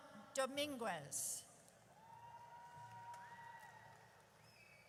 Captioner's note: audience cheers